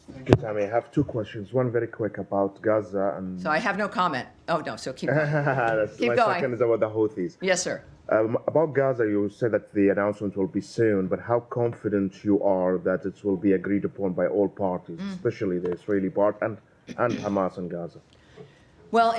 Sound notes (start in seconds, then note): 5.0 laughter